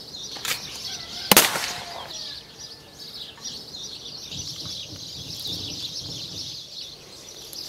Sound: birds chirping; gunshot popping

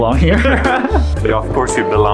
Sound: both laughing

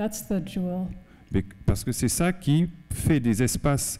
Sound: speaking french

